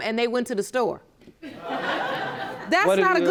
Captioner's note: audience laughing